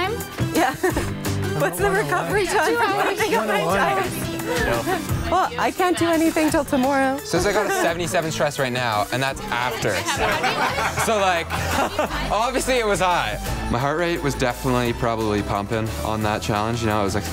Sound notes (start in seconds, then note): 9.6 contestants laughing